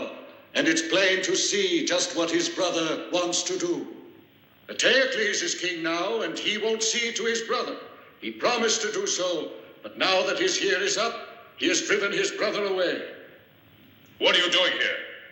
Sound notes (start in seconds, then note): none